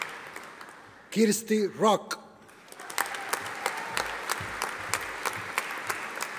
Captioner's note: audience applauding